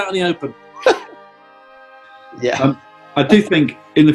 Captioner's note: giggles